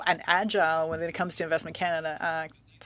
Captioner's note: speaking French